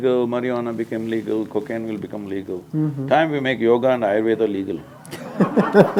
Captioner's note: laughter